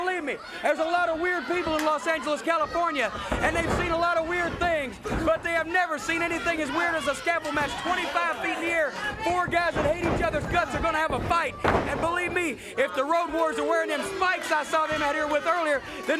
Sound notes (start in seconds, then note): 7.4 blows thudding; 11.4 body thudding